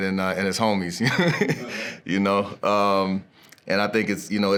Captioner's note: laughs